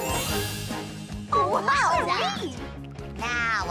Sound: all exclaiming

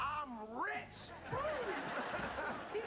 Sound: laughing

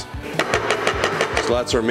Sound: spoon banging

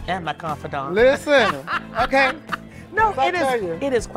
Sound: Alex laughing

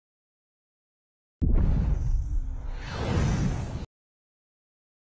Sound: dramatic sounds; silence

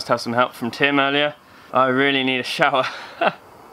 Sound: laughs

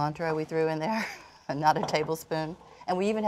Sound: chuckling

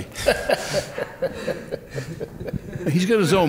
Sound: laughing

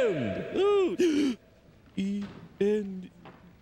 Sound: gasps

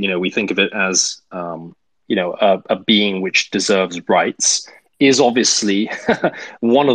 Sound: laughs

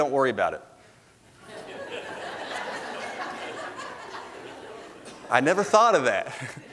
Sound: congregation laughs

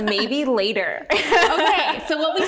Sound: both laughing

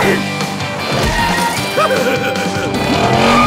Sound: laughing

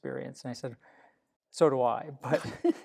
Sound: laughter

